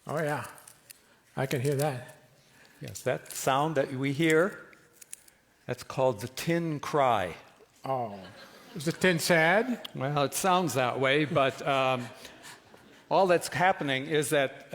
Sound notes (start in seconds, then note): 7.5 speaks soothingly; 11.2 laughter